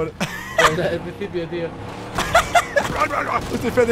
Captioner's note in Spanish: risas del Rubiuh